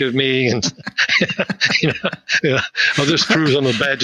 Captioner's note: both laughing